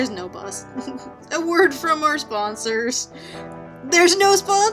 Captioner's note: laughs